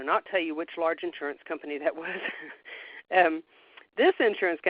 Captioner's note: chuckles